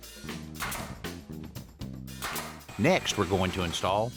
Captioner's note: drilling